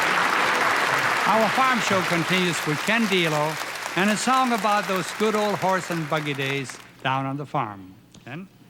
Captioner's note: applause